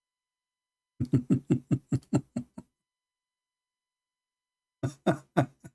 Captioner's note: Ketawa